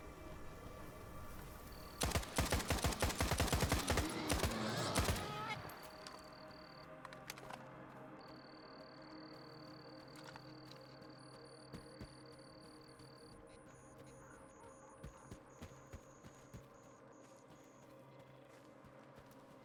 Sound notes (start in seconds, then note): 1.9 gun firing; 4.6 ominous music